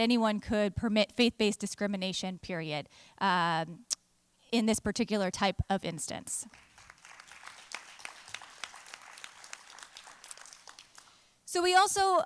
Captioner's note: applause